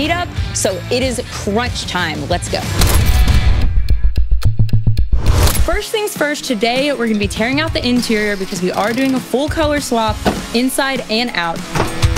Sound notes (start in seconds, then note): 3.0 dramatic ticking; 11.9 loud clanking